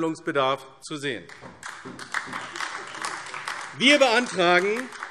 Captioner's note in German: Beifall AfD